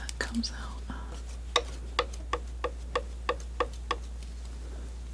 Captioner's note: scratching